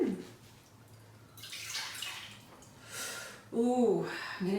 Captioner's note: juice pouring